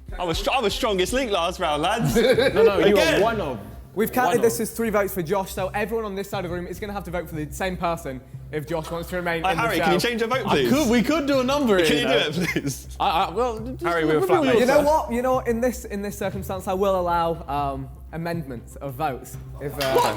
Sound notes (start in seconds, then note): 1.9 men laughing; 11.8 giggles